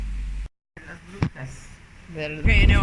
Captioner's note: speaking Spanish